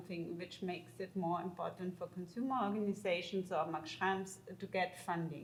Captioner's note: speaking German